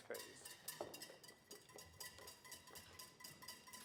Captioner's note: whisk clanking